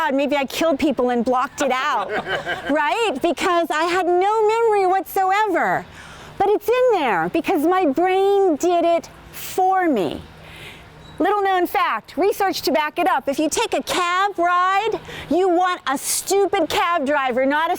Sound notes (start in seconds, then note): 1.9 audience laughs